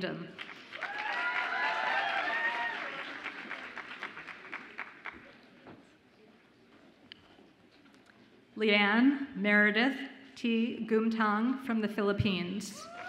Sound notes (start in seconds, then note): 0.4 audience applauds and cheers